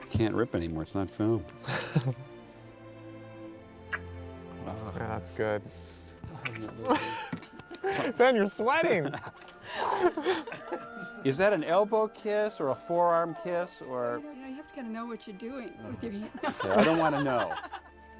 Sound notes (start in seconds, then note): 3.1 kissing Sound; 8.8 laughing